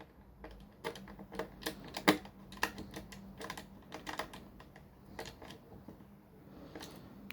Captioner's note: screwdriver screwing